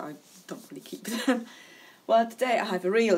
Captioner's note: laughs